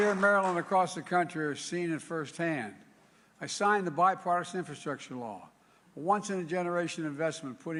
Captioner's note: applause